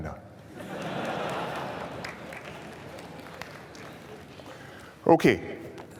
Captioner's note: laughter